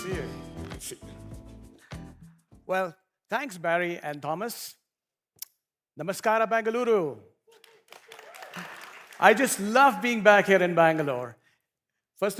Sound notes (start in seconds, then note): 7.5 applause